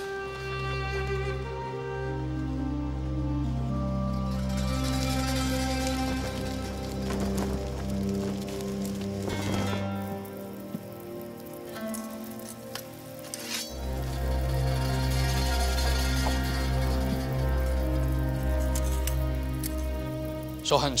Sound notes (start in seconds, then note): 0.1 somber orchestral music; 13.3 sword scrapes